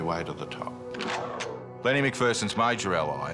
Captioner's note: gun cocks